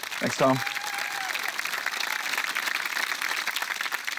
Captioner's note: cheering, applause